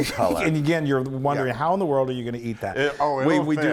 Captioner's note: laugh